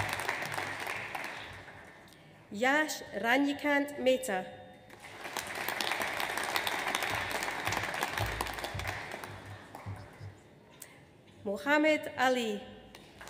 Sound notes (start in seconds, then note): 4.9 audience applauds